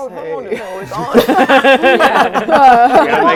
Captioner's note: laughing